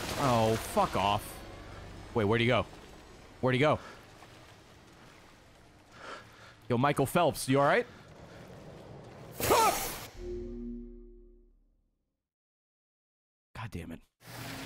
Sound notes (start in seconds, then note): 9.4 screams